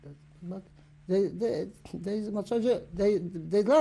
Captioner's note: yiddish speech